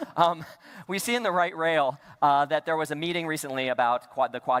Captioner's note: laughter